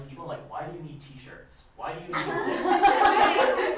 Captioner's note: laughter